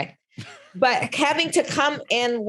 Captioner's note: both laughing